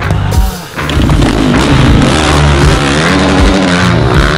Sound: engines revving

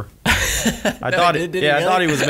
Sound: laughs

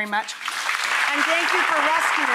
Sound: audience applauds

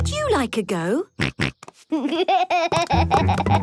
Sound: snorts, giggles

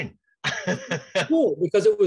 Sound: laughs

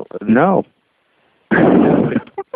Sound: laughing

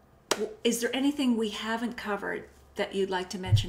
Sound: claps

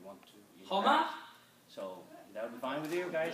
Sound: speaking foreign language

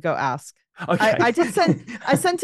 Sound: laughs

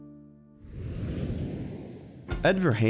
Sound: whooshing

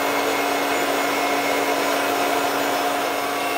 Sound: whirring of the machine

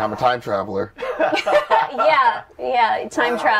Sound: laughter

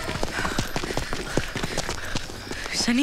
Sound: panting

